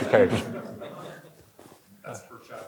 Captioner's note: audience chuckling